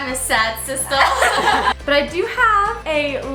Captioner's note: all laughing